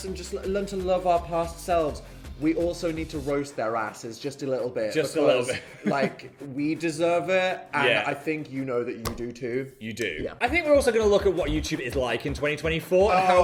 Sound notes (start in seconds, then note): 5.6 chuckling; 9.0 palm thumping